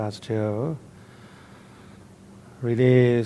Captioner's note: inhales deeply